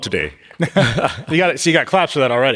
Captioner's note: laughing